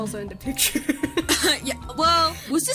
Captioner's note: laughs